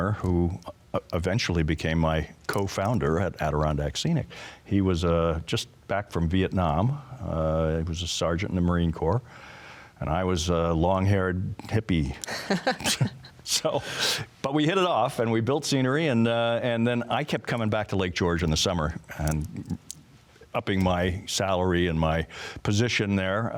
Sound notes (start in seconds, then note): 12.2 both laugh